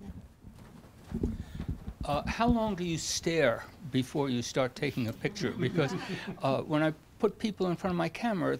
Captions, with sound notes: - [Voiceover] How long do you stare before you start taking a picture? Because when I put people in front of my camera,